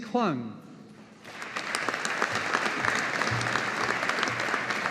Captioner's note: audience applauding